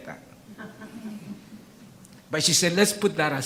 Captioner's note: audience laughs